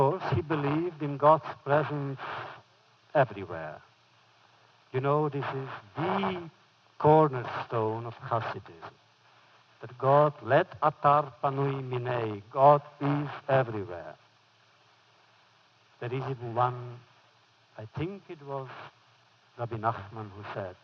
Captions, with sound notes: he believed in God’s presence everywhere. You know, this is the cornerstone of Hasidism, that God (foreign language) God is everywhere. There is even one -- I think it was Rabbi Nachman who said,